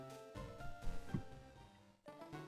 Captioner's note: microphone bonk